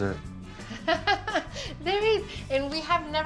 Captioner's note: laughs